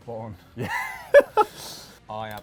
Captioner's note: laughs